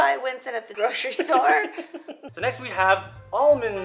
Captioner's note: laughter